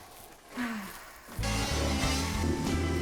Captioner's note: sighs; slow music